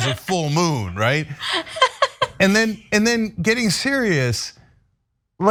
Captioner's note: laugh